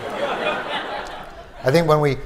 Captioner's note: laughter